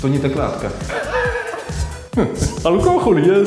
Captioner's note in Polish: Śmiech Antka